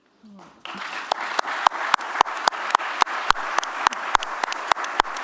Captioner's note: applause